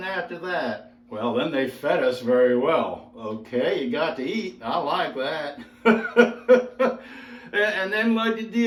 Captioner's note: laughs happily